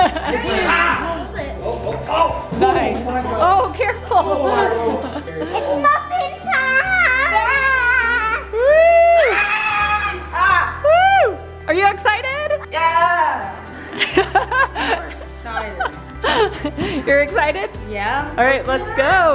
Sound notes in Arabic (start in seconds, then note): 15.4 ضحك